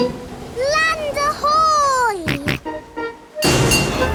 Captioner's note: snorts